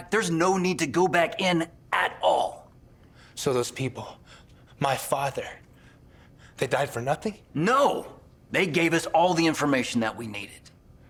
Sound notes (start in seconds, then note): none